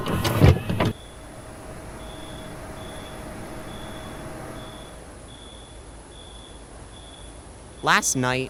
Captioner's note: static; crickets